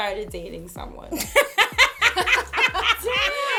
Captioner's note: laughter